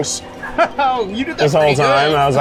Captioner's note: laughs